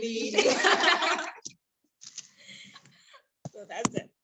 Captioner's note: laughter